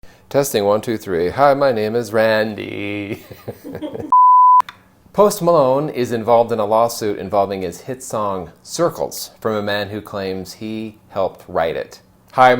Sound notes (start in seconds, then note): 3.0 laughter; 4.1 beep